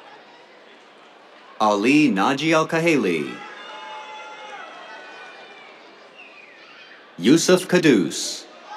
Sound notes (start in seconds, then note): 2.8 cheers, applause